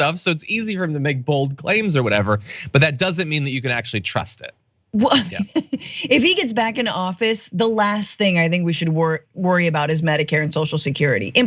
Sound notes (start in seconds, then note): 5.0 laugh